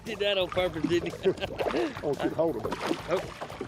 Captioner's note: laughs